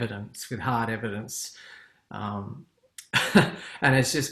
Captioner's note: laughs